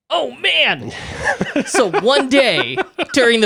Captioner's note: laughs